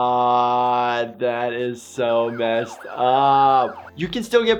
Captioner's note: sirens wailing